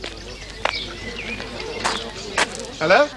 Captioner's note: footsteps